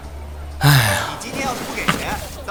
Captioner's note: sigh